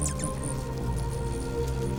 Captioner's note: wings whirring